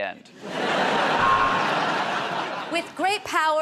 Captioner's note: buzzer buzzes